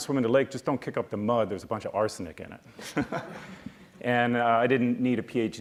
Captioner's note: laughs